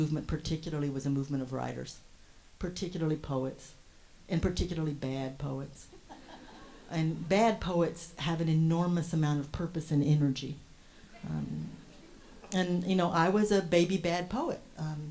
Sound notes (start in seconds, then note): 5.9 host and audience lightly laugh